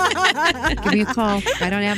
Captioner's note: both Laughing